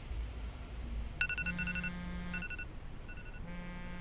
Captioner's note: alarm ringing